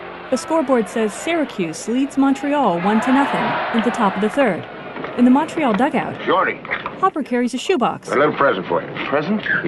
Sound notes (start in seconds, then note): 2.2 crowd cheering